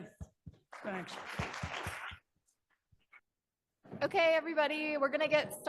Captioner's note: audience clapping